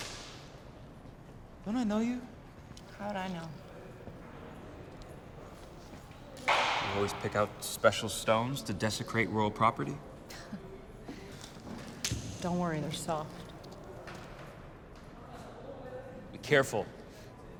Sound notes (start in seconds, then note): 10.3 Julia laughs